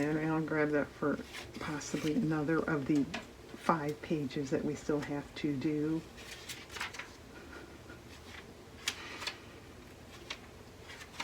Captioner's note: laughs